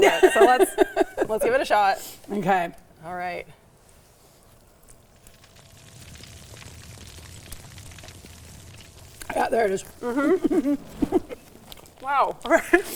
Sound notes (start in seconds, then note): 5.3 fire crackling